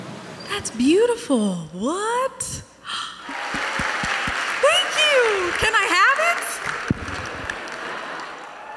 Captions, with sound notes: That's beautiful. What? [audience applauding] Thank You. Can I have it?